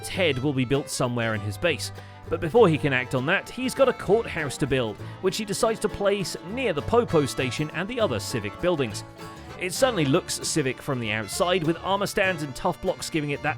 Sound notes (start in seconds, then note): none